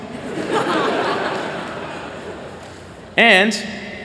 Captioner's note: laughter